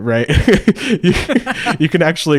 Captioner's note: both laugh